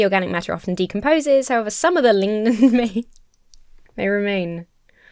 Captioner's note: laughs